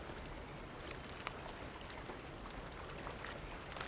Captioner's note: crunching